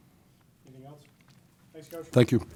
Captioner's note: voiceover